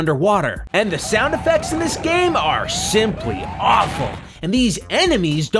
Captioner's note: sirens and gunshots